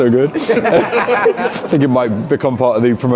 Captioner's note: all laugh